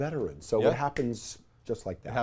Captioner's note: snaps fingers